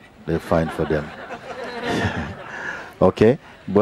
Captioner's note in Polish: śmiech